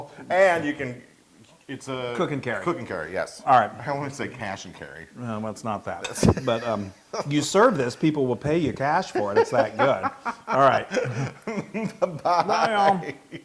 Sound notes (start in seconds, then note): 9.1 laugh